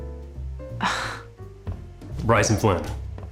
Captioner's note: sighs